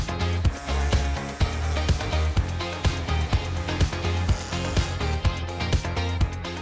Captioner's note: upbeat music; tool buzzing